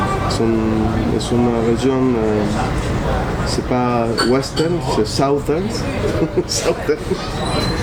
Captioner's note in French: rires